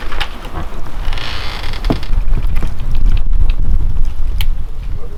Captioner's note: door creaking